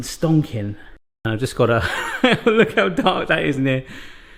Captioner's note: laughs